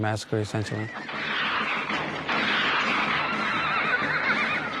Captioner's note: gunshot blasting; horse neighing